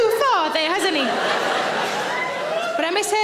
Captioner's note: audience laughing